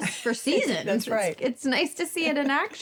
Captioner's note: chuckles